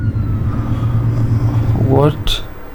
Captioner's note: breathes heavily